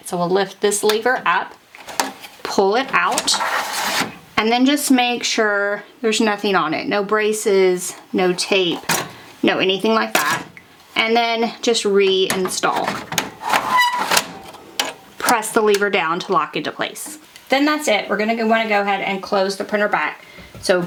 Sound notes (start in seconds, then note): 12.3 fuser clattering